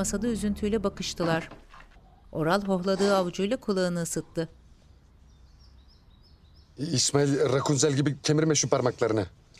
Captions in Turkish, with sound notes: (Üfleme sesi) İsmail, rakunzel gibi kemirme şu parmaklarını.